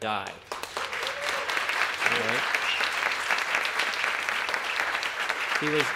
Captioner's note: applause